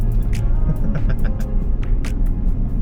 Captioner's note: demented laughter